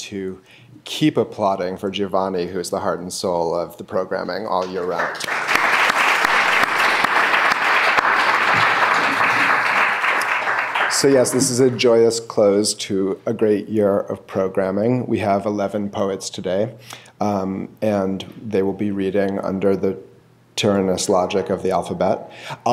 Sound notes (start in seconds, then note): 4.6 clapping